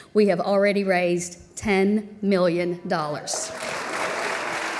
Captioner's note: applause